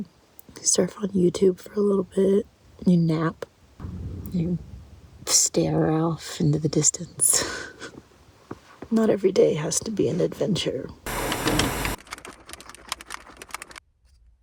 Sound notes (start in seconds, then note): 6.8 laughs